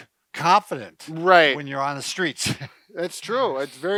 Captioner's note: chuckles